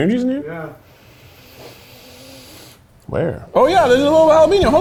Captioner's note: sniffs